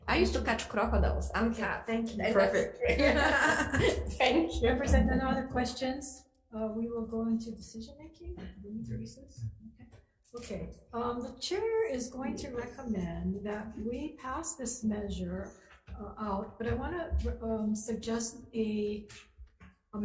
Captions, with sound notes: I used to catch crocodiles, I'm tough. - Thank you, perfect. (laughs) - Thank you. - Members, are there no other questions? We will go into decision-making. Do we need to recess? Okay, the Chair is going to recommend that we pass this measure out but I want to suggest a